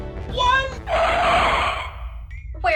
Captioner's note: car screech